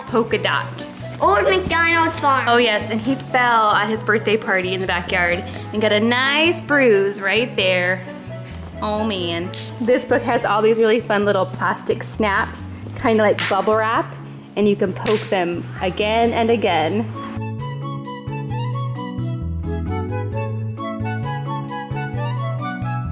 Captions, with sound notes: - Poke-a-Dot. - Old Mcdonald farm. - Oh yes, and he fell at his birthday party in the backyard and got a nice bruise right there. Oh, man. This book has all these really fun little plastic snaps, kinda like bubble wrap. (popping) And you can poke them again and again. (playful instrumental music)